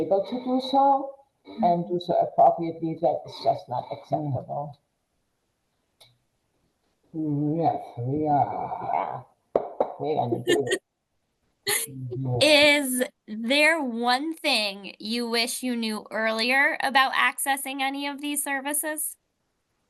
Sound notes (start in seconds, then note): 10.0 people laugh